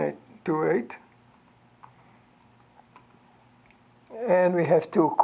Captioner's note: mouse clicking